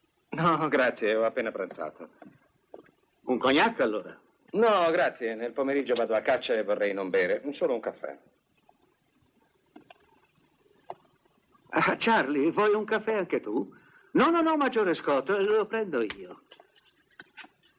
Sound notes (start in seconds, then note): none